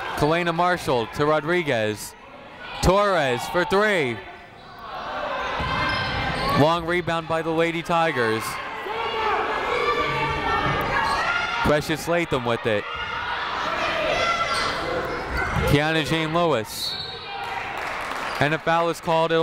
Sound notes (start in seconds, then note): 5.2 people shouting in the crowd; 8.5 people shouting in the crowd; 13.1 people shouting in the crowd; 16.8 whistle tweeting